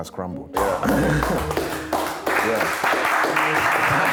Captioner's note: applause